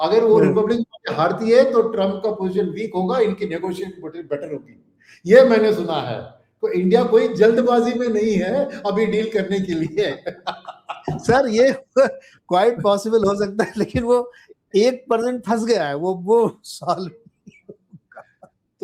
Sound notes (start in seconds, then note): 9.6 laughter